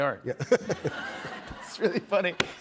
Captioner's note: laughter